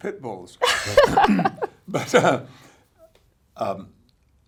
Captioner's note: laughs